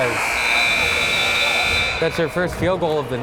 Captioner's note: timer buzzes